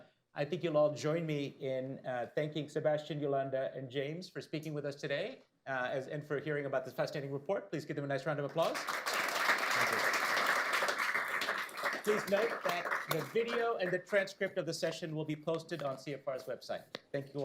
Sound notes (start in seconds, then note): 11.4 applause